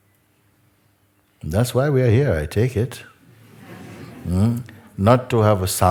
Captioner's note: laughter